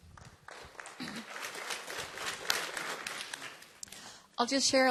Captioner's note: applause